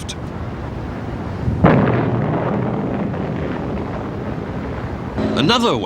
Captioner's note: artillery explodes